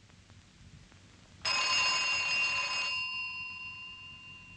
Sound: phone ringing

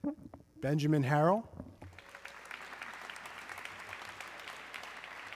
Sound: audience clapping

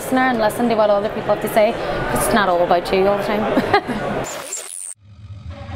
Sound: laughing

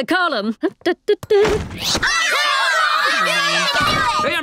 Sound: cheering

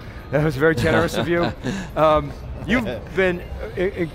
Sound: laughs

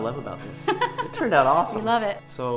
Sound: laughs

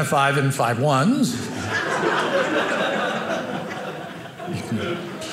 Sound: audience laughing

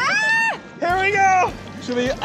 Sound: scream

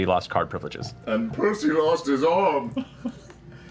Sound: tearfully

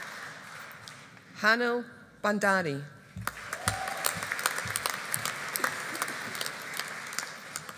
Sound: audience applauding

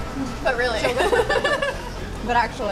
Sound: laughing

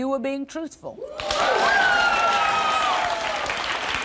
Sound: applause

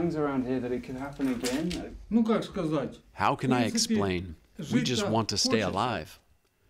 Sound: through translator

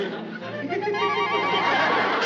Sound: giggles

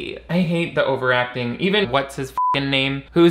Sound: beep

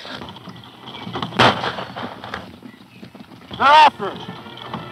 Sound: gun fires

